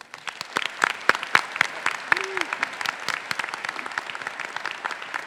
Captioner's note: faculty and graduates applauding